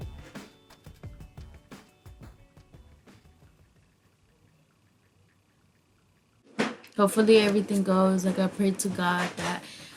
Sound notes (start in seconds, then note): 0.0 bright upbeat music; 3.8 dial pad tapping